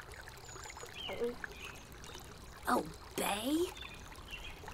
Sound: gulps

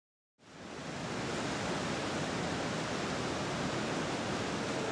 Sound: running water

